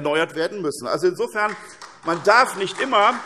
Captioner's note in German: Beifall